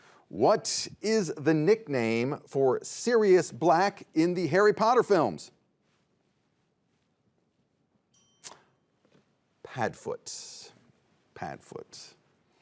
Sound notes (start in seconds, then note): 8.1 bell dings